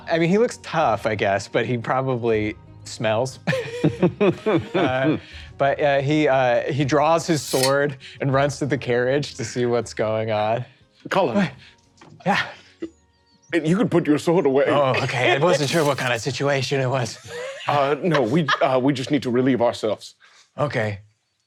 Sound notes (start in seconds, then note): 3.4 laughing